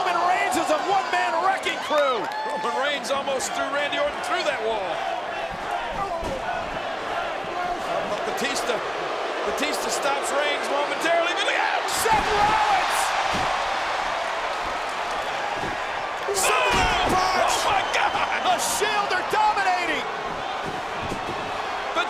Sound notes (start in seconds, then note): 2.2 audience cheers; 5.6 audience chanting